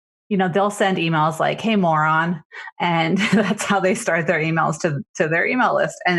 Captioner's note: laughs